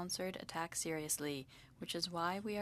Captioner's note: speaking French